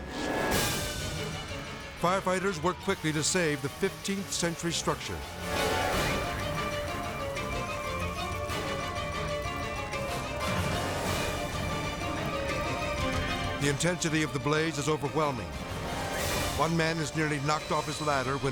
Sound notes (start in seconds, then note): 0.2 sirens blaring; 5.6 dramatic music; 8.4 sirens blaring